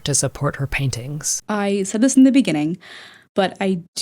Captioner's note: inhale